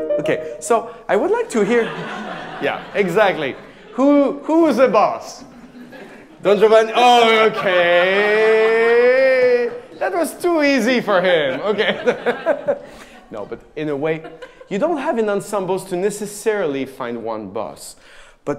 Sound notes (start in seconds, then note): 1.4 audience laughing; 12.5 laughing